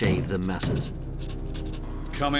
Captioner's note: knocking on door